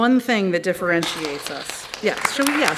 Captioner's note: applause